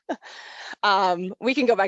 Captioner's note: laughs